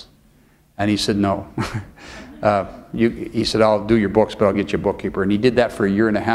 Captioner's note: chuckle